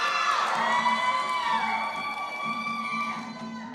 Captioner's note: applause